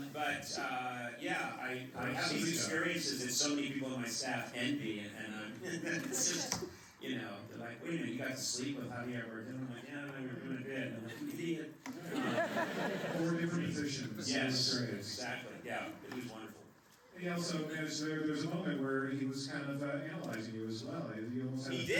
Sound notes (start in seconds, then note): 5.6 laughs; 11.9 laughter